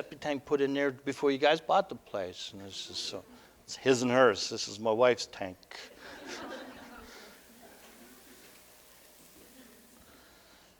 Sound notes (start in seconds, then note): 5.9 audience: Laughter